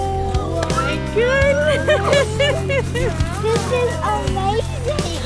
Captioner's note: laughs